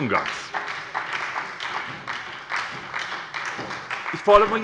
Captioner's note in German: Beifall bei der SPD